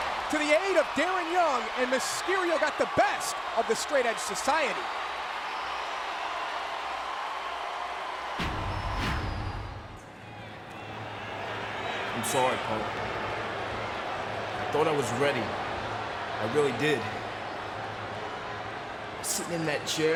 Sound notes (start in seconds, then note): 10.3 crowd cheering